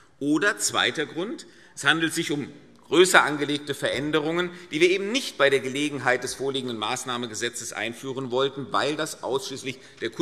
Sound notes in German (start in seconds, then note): none